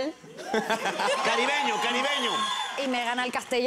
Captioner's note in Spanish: él ríe